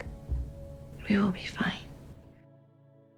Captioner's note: voiceover